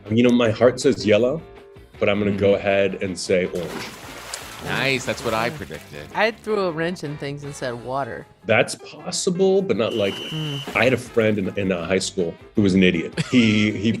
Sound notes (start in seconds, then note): 3.5 water splashing; 9.8 refs whistle blowing